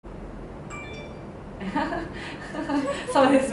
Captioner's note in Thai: เมสเสจเข้า